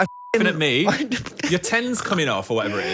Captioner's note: beep